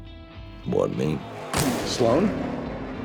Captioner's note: gunshot